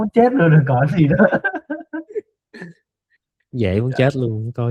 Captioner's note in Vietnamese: tiếng cười